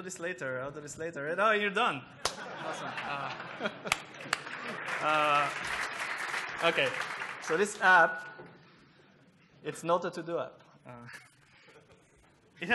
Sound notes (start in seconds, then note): 3.0 applause